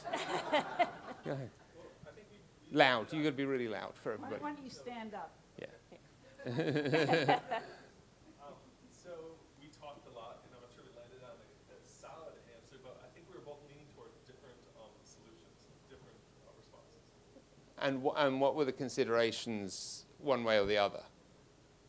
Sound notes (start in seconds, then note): 0.0 audience laughs; 6.3 laughs